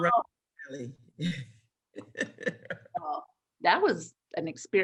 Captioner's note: laughs